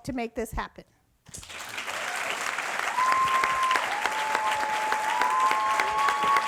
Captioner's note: audience applauds and cheers